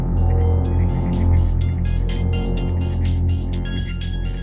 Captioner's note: ringtone playing